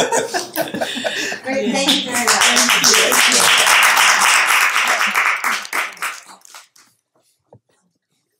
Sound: applause

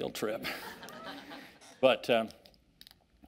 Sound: audience laughing

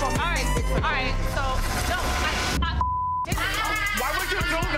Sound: beep

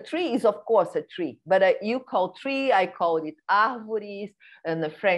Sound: non-english speech

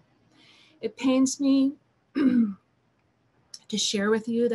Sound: clears throat

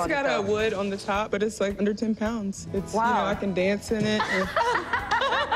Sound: laughter

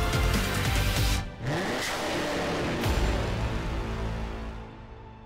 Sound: engine roars

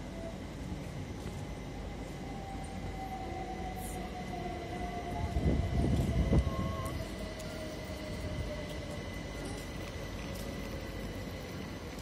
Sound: train noise

